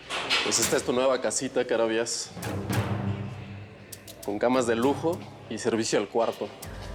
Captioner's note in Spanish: ruido al abrir; ruido al cerrar